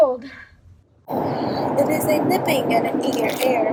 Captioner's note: wind blowing